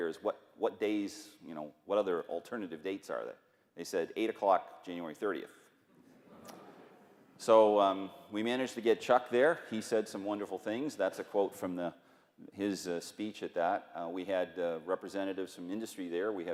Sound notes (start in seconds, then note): 6.2 laughter